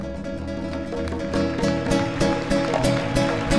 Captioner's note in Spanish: Aplausos